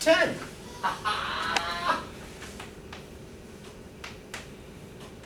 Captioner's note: professor laughing